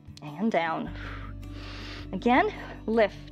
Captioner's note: exhales and inhales